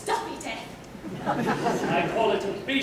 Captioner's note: laugther